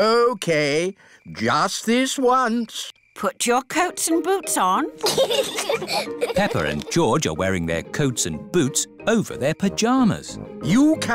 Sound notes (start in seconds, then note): 5.0 both giggle